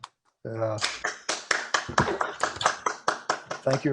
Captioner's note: applause